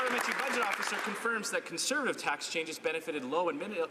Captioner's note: some Applause